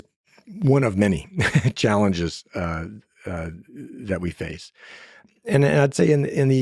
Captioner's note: laughs